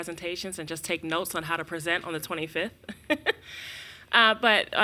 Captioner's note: laughs